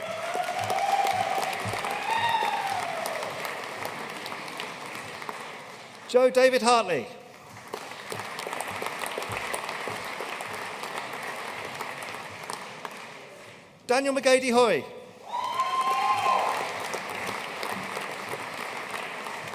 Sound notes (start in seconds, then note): 0.0 audience cheering and applauding; 7.3 audience applauding; 15.2 audience cheering and applauding